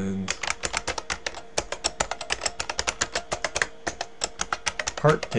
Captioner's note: typing